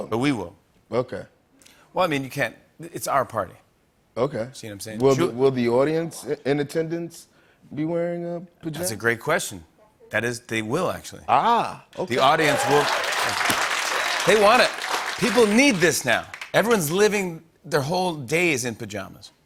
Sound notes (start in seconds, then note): 12.0 cheers and applause